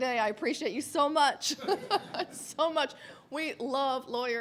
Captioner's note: laughs